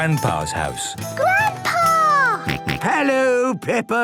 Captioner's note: George snorts